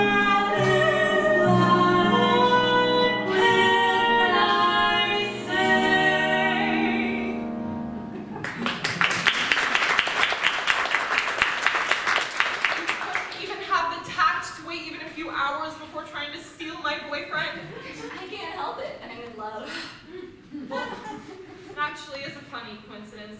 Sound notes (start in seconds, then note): 8.4 applause